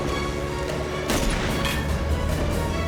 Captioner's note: gunshot